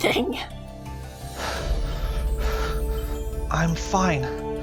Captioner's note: heavy breathing